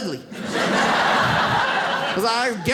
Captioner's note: audience laughs